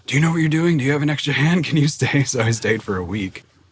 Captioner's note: laughs